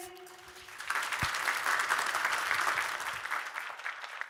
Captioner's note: audience applauding